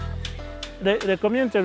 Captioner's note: hammering